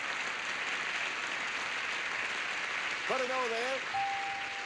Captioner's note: audience applauding